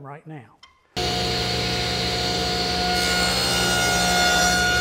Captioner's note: machine running